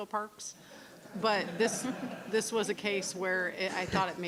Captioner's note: board members laughing